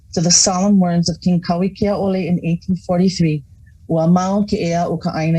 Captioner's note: speaking in foreign language